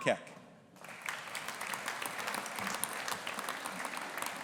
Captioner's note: audience applauding